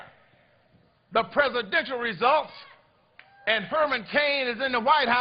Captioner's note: cheers and applause